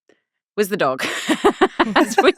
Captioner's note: laughing